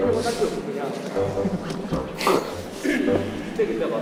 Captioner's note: haha; giggles